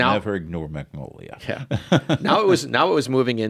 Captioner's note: laughs